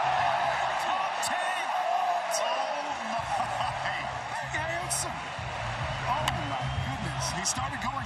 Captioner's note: cheering